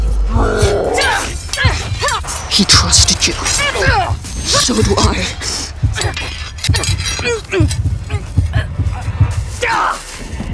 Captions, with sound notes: [roaring] [swords clashing] He trusted you. So do I. [swords clashing] [choking] [yelling]